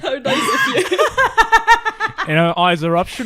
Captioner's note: laughs; laughing